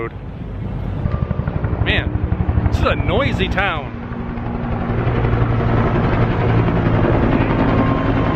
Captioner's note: helicopter flying overhead